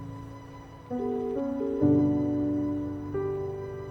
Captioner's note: phone rings